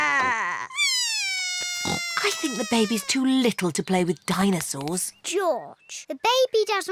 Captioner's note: bawls